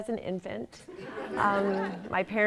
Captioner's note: laughter